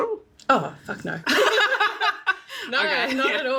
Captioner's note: laughs